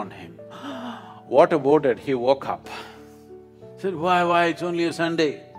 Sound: gasps

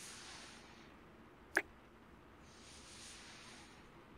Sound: kiss

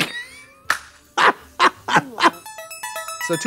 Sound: Trixie whoops and claps; upbeat music

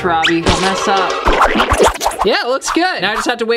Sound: whooshing

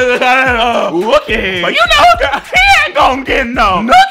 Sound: laughs

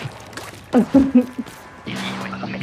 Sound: nervous chuckles

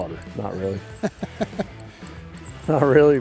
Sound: laughs

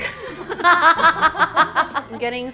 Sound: all laughing

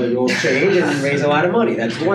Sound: laughing

